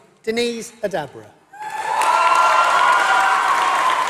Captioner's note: applause